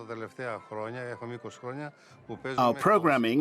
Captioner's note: speaking in foreign language